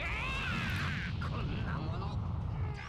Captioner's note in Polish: krzyk